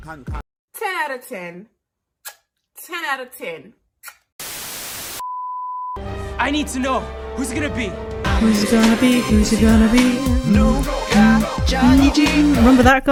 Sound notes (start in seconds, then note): 1.8 blows kiss; 4.4 static